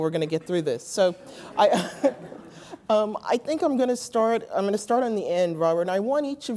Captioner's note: laugh